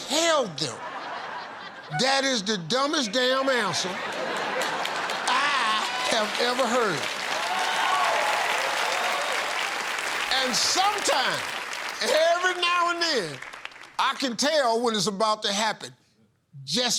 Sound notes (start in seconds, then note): 7.6 cheers and applause